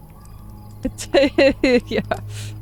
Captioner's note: laughter